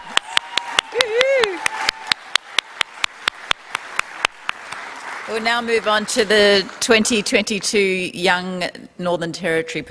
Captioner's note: cheering